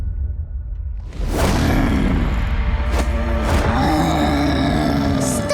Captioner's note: grunting